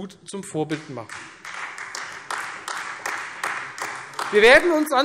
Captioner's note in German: Beifall